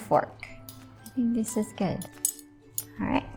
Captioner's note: silverware clanking